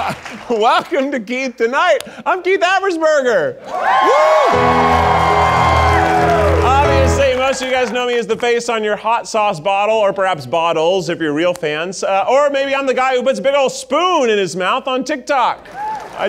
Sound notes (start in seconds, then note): 3.6 audience cheering